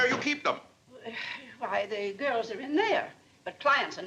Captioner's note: sighs